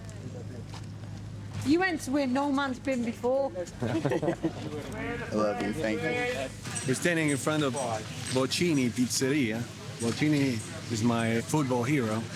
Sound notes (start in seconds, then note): 3.8 all chuckling